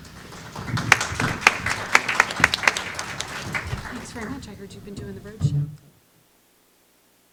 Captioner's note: applause